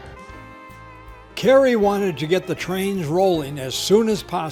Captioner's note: voiceover